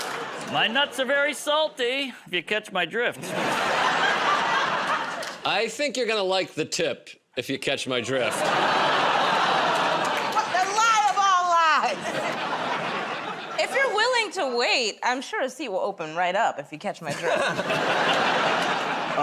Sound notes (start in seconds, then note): 0.0 laughter; 3.2 laughter; 8.6 laughter, groaning; 11.9 laughter; 17.0 laughter